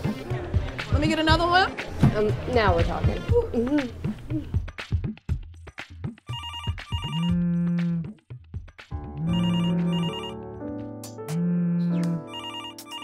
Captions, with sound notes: Let me get another one? - Now we're talking. (phone ringing) (light piano music)